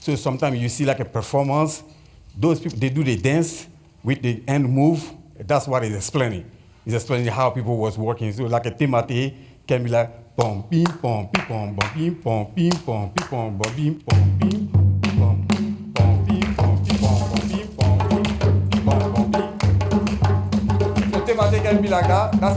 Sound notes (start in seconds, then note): 10.3 hums beats